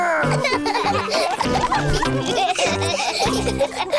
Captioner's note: all laughing